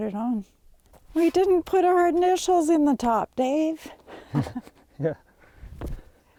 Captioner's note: laughing